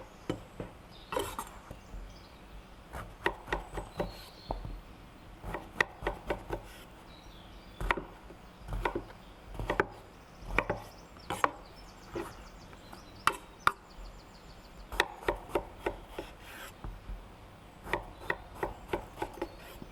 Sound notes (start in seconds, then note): 4.8 bird and knife sounds